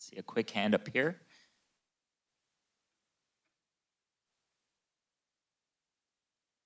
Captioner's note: silence